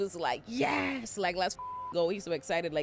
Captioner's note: beep